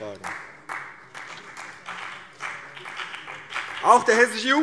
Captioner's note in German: Vereinzelter Beifall CDU und BÜNDNIS 90/DIE GRÜNEN